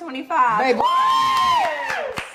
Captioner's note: all cheering; others clapping